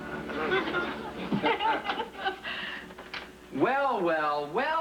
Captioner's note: laughing